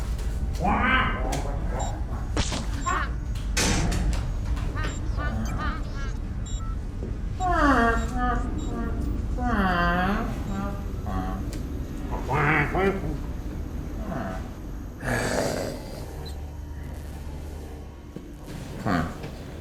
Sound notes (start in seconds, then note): 6.1 electronic noises